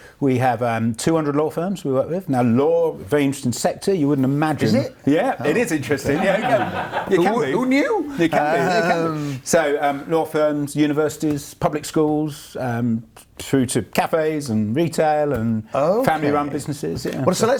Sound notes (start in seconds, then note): 7.0 laughs